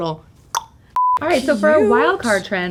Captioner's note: clicking her tongue